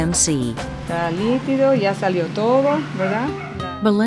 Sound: speaking spanish

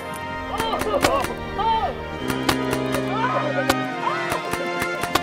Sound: crowd cheering

